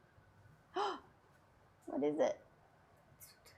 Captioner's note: gasps